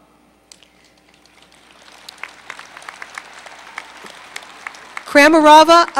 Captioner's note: applause